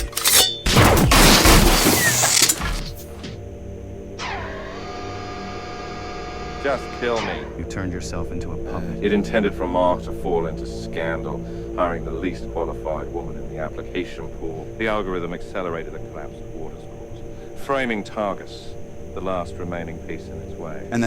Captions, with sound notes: (weapon blasts) (weapon buzzing) Just kill me. - You turned yourself into a puppet. - It intended for Mark to fall into scandal, hiring the least qualified woman in the application pool. The algorithm accelerated the collapse of Waters Corp, framing Targus, the last remaining piece in its way.